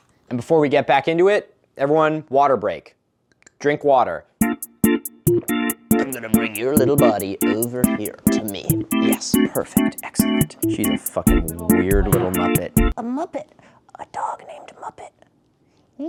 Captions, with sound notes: Aughhhh. And before we get back into it, everyone... Water break. Drink water. [gulp] [in a nasally voice] I'm going to bring your little body over here to me. Yes. Perfect. Excellent. She's a f*cking weird little Muppet. A Muppet, a dog named Muppet.